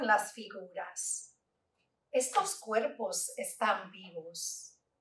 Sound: Spanish

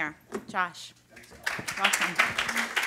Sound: applause

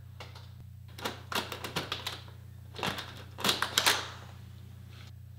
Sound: handle rattling

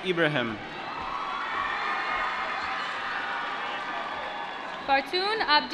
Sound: applause

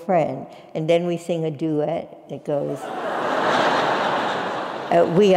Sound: laugh

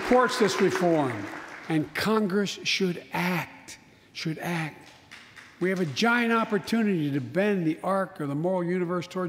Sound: applause

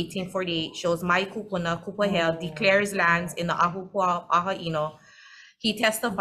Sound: speaks foreign language

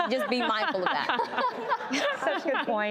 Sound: laughing

